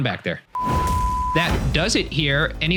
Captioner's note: beeping